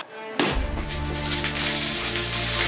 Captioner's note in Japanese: 風船を投げつける音